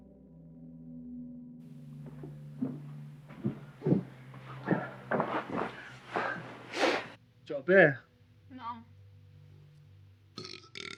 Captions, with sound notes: (shoes shuffling) - Do you want a beer? - No.